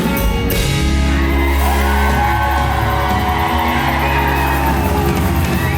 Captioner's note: audience cheers and applauds